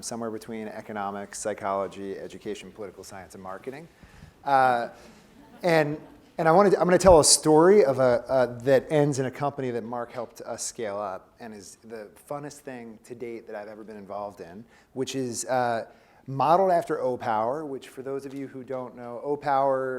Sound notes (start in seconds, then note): 5.1 laugh